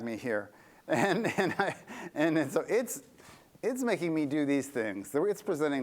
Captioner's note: laughter